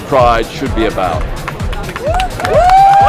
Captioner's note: cheering